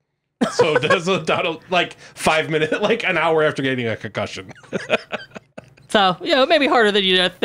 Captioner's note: laughs